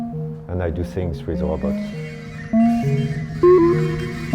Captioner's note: robots trilling; gentle music; robots trilling